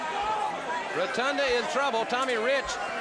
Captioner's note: crowd cheering